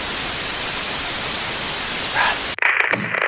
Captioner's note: crackling